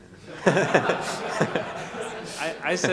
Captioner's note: audience laughing